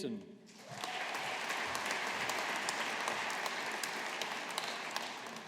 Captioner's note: audience applauding